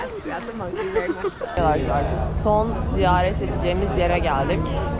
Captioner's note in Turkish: kahkaha